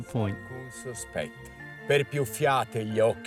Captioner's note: reciting in Italian